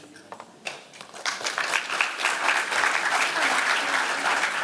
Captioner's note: applause